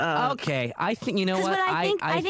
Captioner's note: fumbling for words